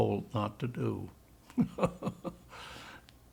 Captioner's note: laughing